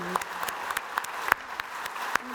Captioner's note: audience applauding